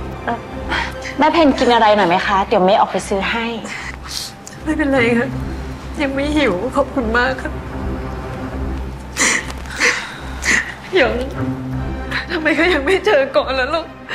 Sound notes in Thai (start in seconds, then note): 10.4 เสียงร้องไห้